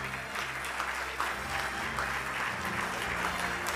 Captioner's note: clapping